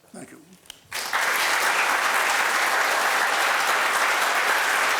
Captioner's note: applause